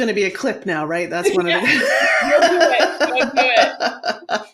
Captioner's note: guffaws